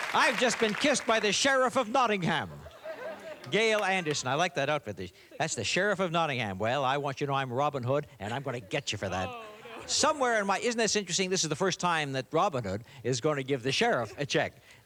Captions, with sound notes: I've just been kissed by the Sheriff of Nottingham. (laughter) Gail Anderson. I like that outfit. That's the Sheriff of Nottingham. Well, I want you to know, I'm Robin Hood, and I'm gonna get you for that. -Oh, no, no. -Somewhere in my... Isn't this interesting? This is the first time that Robin Hood is going to give the Sheriff a check.